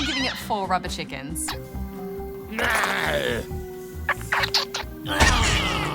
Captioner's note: groans